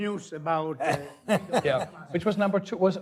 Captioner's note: laughing